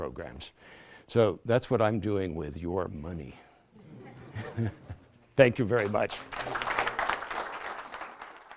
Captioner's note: laughter; applause